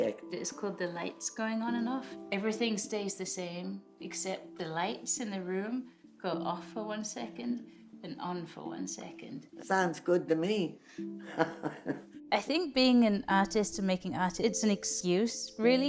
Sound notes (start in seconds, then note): 11.3 woman chuckles